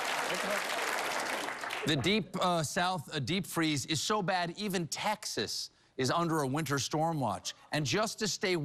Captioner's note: applause